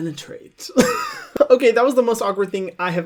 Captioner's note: laughs